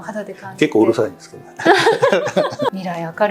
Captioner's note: laughs